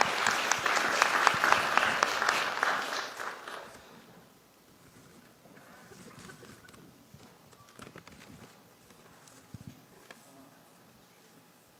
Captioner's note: applause